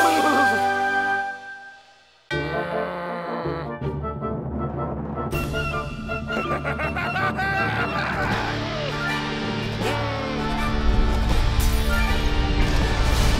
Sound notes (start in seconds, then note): 1.6 growls; 6.2 maniacal laughter